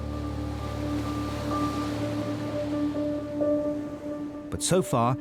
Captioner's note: waves crashing; contemplative music